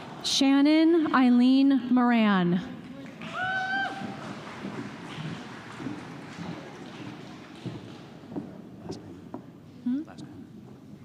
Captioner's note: applause